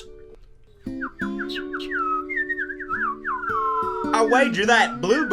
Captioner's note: birds twittering